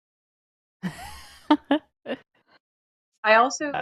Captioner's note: laughs